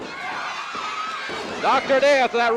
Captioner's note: audience cheering